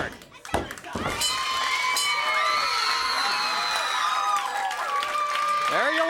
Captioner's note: hand smacking; crowd cheering; bell dinging